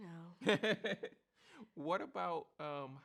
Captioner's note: laughs